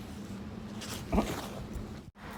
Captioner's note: grunting sound